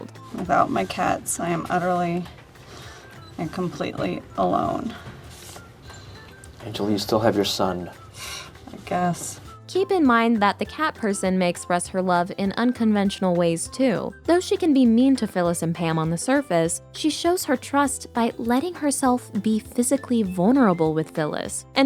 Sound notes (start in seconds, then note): 8.1 sighs